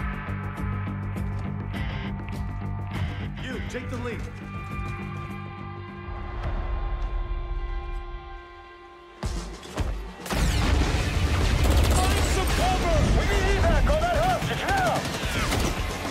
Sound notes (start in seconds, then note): 10.2 gunfire